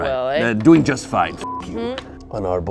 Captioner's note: beep